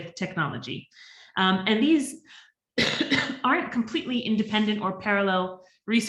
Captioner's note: coughs